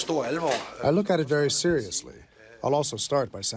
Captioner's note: through translator